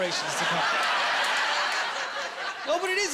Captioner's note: laughing